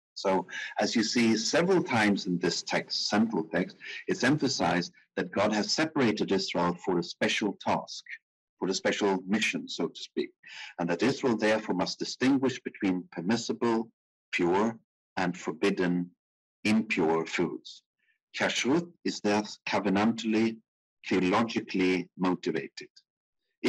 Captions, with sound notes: So as you see several times in this text, simple text, it's emphasized that God has separated this all for a special task, for a special mission, so to speak. And that Israel therefore must distinguish between permissible, pure and forbidden impure foods. (speaking in foreign language) is there covenantly, theologically motivated.